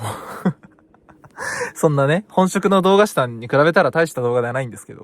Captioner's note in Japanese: 笑い